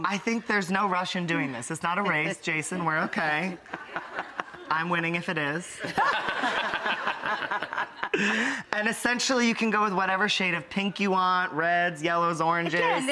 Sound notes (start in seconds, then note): 5.8 laughter